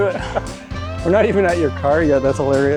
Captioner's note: laughs